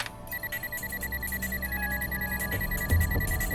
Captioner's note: electronic beeping